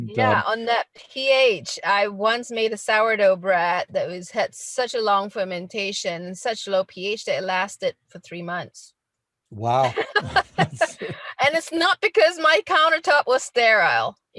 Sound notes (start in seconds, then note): 9.6 laughing